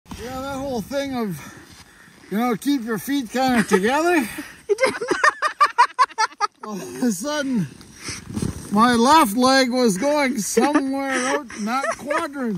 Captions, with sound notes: Yeah that whole thing of, you know, keep your kind of together [Laughter] All of a sudden my left leg was going somewhere out in that quadrant.